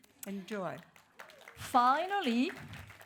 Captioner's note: audience applauds